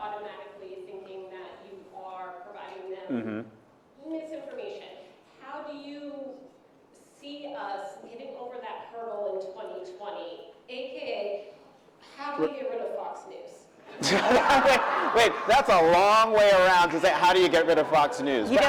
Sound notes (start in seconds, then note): 13.9 laughter